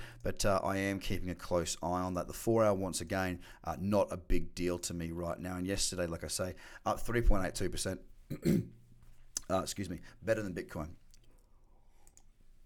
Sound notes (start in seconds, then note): 8.3 coughing